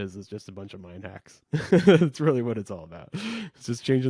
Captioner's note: laughs